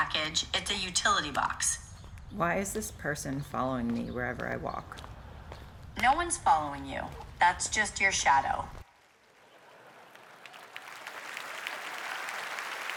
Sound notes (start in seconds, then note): 4.2 applause